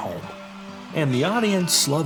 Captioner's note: audience cheering